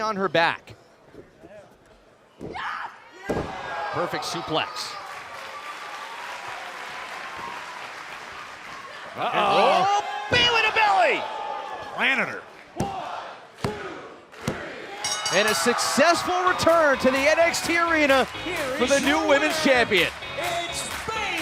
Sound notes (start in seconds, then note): 3.5 crowd cheering; 15.0 bell ringing